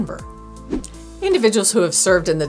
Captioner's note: air whooshing